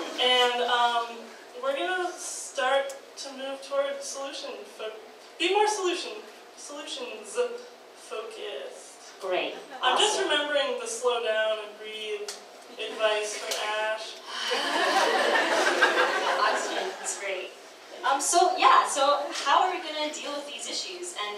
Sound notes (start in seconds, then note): 14.8 exhales loudly; 16.4 audience laughs